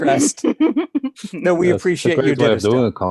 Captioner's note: laughs